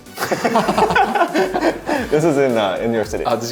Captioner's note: both laughing